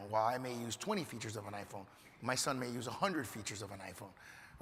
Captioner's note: none